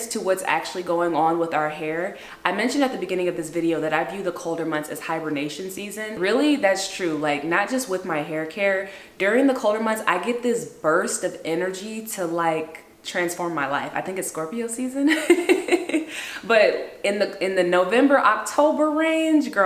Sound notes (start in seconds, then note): 15.1 laughs